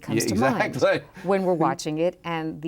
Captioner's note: laughs